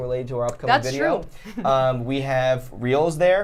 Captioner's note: laughs